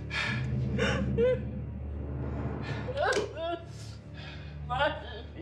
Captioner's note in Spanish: sollozos